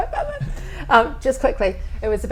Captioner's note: laughs